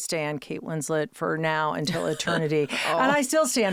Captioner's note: Kate laughing; laughing